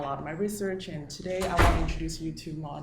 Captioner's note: door slamming